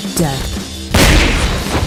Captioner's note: clashing sound